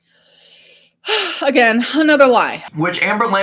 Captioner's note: sighs